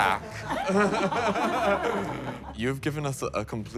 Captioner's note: everyone laughing